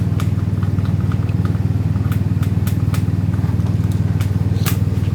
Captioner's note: license plate scraping